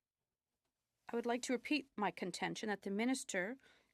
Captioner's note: speaking French